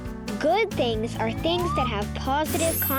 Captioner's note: slide whistle whistling